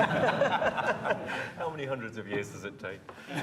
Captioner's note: laughter